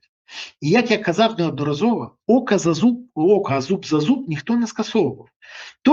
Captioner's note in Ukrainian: сопіння